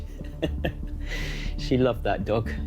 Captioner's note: Michael laughing